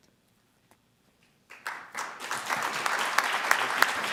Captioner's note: audience applauding